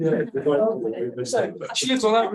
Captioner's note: people chatter